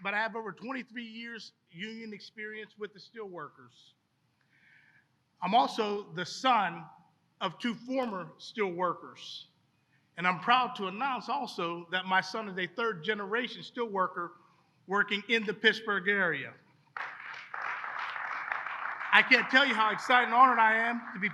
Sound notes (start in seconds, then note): 16.9 applause